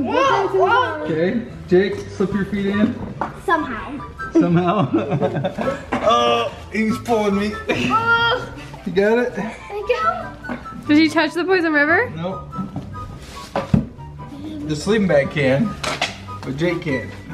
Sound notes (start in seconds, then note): 4.4 laughs; 8.0 groans